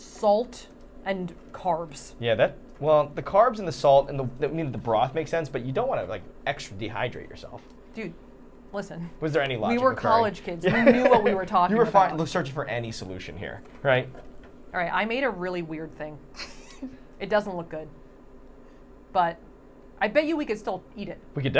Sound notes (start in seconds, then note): 16.3 laughing